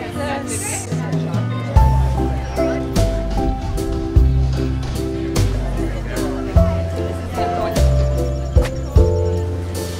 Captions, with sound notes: - Look at this. (gentle music) (people chatting)